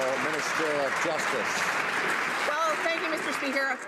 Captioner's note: some Applause